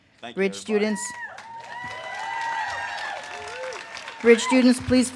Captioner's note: audience cheers and claps